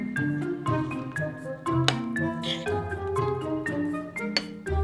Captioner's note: spoon scrapping bowl